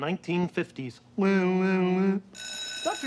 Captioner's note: bell ringing